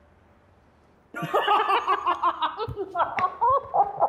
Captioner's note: Both laughing